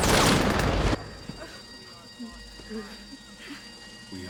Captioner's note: gunfire; sobbing